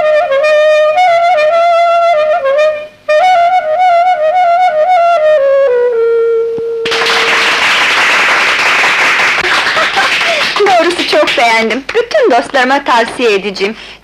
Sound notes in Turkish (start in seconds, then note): 6.8 Alkışlar